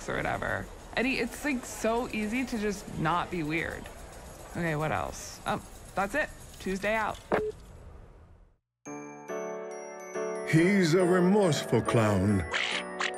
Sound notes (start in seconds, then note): 7.0 line disconnects; 12.5 high-pitched squawking